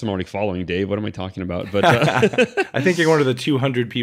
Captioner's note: both laughing